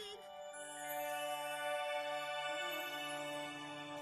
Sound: tinkling

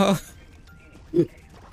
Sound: giggle

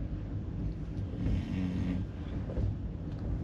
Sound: snoring sound intensifies

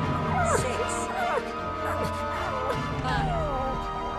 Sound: whimpering

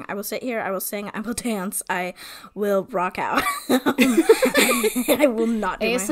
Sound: laughs

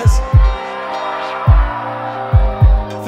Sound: audience cheers

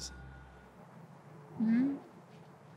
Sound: outdoor ambience

